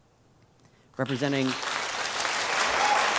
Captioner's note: applause